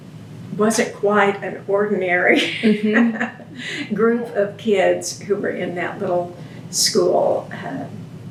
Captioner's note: laughs